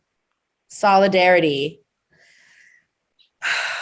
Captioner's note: sighs